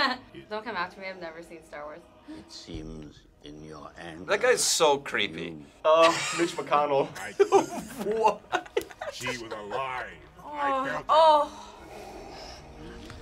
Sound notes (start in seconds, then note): 7.2 laughs